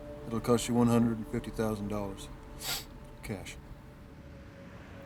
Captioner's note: sniffs